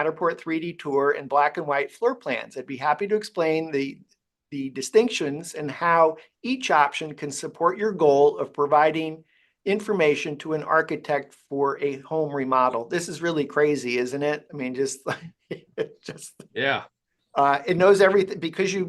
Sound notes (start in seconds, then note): 15.0 chuckles